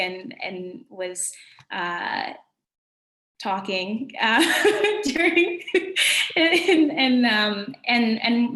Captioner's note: laughter